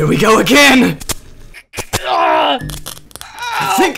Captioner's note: static crackling; Ashe and Gregor grunting in pain